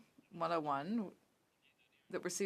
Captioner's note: speaking French